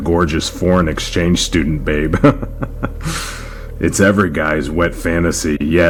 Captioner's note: laughs